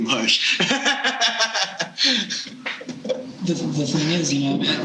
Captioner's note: laughing